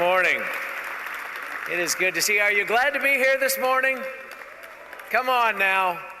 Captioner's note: applause